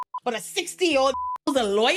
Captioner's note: beep